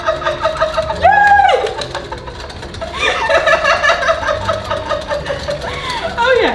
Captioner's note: tiny applause